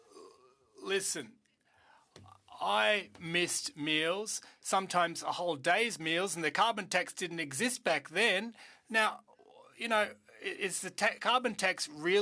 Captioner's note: speaking French